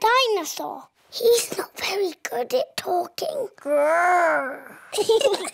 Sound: whispers; both giggle

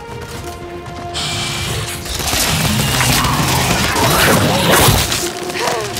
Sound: gunshots

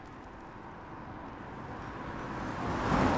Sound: car Engine Roars

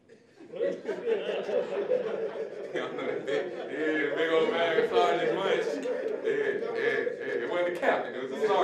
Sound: audience laughing

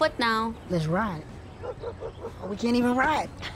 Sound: dog barking

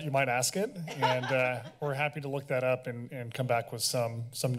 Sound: laughs

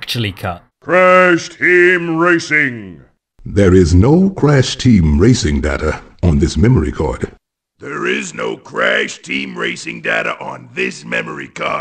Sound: voices read lines on screen

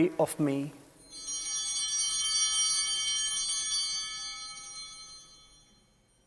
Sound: bell ringing

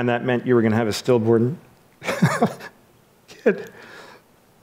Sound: laughs

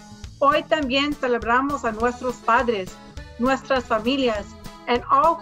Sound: speaks in foreign language

